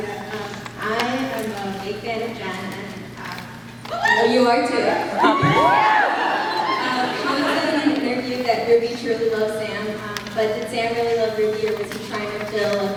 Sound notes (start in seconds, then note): 4.9 cheers; 5.6 laughs